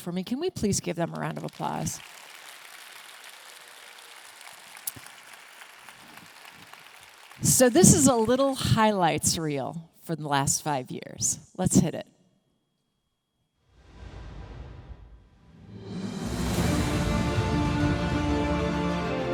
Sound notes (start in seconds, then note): 1.2 audience clapping; 14.1 upbeat music